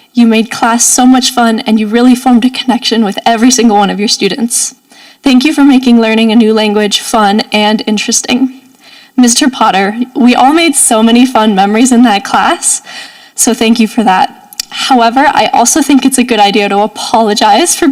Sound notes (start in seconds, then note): none